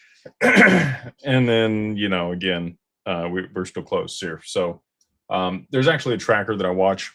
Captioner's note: clears throat